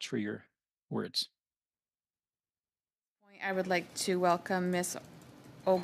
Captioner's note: speaking French